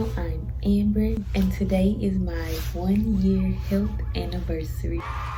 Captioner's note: cheering